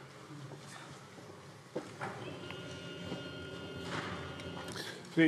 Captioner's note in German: none